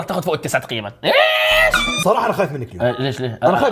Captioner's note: yelling